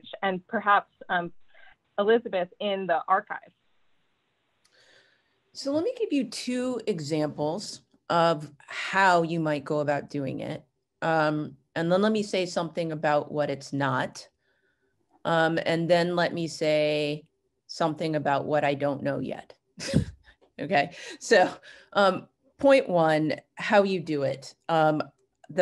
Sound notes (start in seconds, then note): 20.1 chuckles